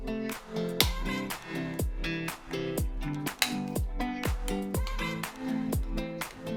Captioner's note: bright music continues; plastic clicking